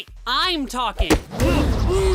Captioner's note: crowd gasps